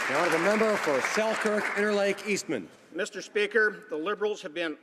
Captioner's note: some Applause